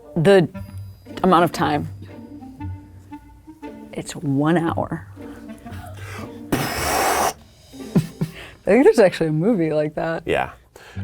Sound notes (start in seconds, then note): 1.6 playful orchestral music; 4.8 playful orchestral music; 7.8 laughing